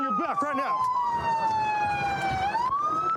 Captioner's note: sirens blaring